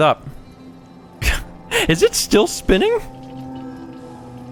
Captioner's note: chuckle